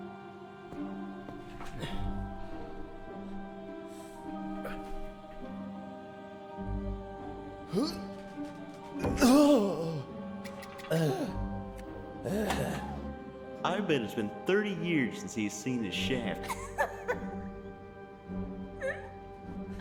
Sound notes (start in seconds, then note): 0.2 dramatic music; 9.1 Sargon groaning; 16.4 Becky laughing